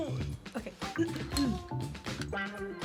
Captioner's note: clears throat